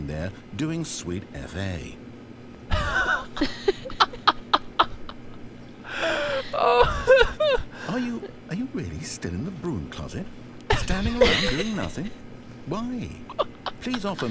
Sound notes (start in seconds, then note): 2.7 laughs